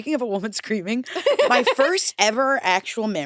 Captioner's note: laughs